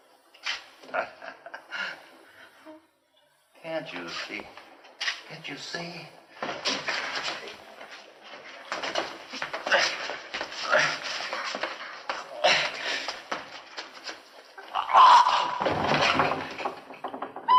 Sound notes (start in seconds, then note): 2.6 panting; 6.1 screaming